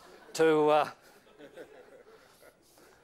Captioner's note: laughter